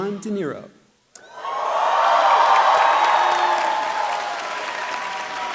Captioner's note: applause